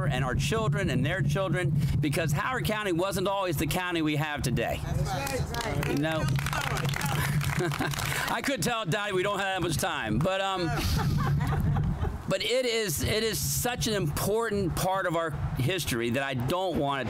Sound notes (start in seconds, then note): 5.1 applause